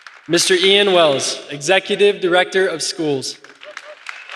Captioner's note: applause